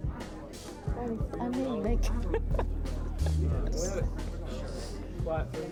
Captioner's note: laughing